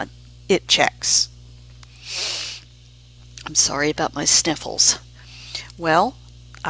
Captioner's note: sniff